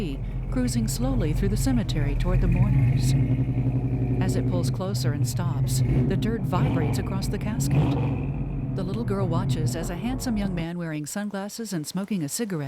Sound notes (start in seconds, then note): 4.2 revving; 8.8 engine Stops